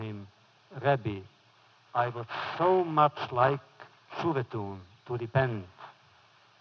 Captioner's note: foreign language